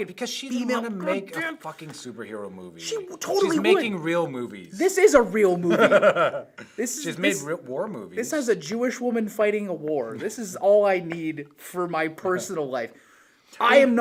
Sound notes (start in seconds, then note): 5.6 chuckles